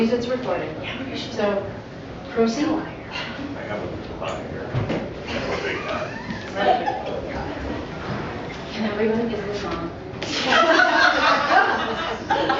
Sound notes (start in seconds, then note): 5.2 mumbling & laughter because doesn't want to be in the shot; 10.4 laughter